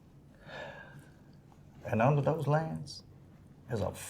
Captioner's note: sighing